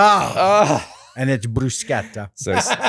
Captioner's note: laughing